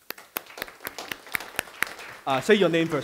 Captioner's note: applause